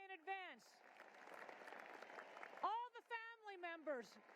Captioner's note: cheering and applause